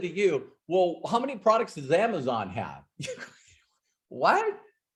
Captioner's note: laughs